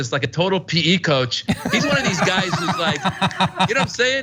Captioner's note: laugh